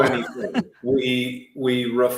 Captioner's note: chuckling